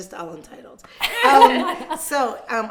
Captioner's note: laughing